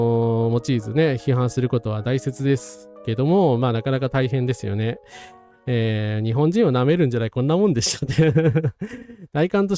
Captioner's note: laughs